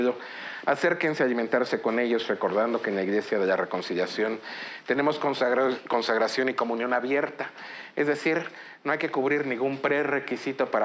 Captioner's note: speaking in Spanish